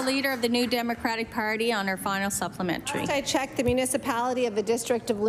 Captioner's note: applause